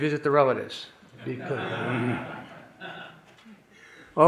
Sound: audience laughing

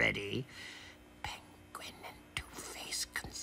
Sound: whispering

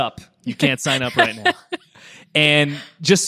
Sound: laughs

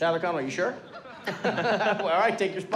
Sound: laughing

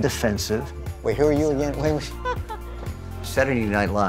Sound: laughter

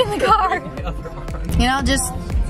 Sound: man chuckles

